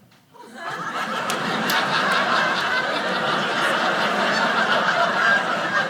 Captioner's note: audience laughing